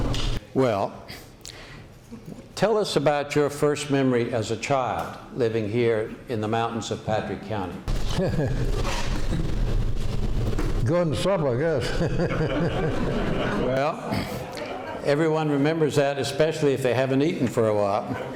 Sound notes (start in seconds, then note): 8.8 laughing; 11.7 laughter